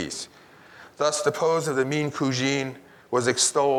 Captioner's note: speaks in Italian